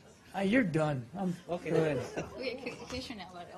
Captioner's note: laughter